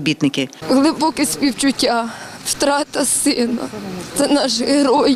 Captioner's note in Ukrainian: плаче